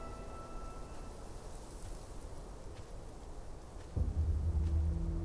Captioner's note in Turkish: Rüzgar sesi